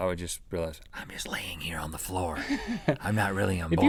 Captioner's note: laughing